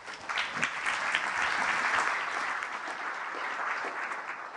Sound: applause

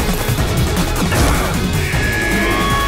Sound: grunt

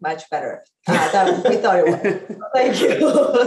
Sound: laugh

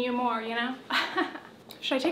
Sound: chuckles

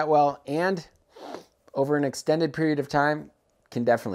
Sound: sniffs

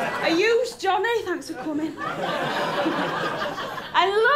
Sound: laughter; laughter

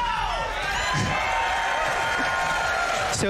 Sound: applause

